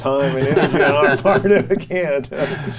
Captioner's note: group laughs